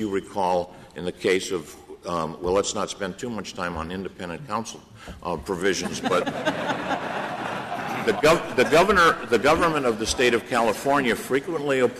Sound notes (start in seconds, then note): 5.7 laughter